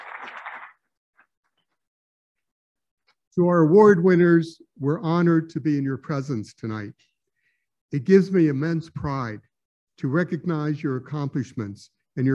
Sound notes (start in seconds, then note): 0.0 applauding